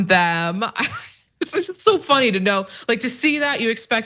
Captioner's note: laugh